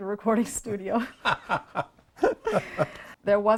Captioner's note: both laughing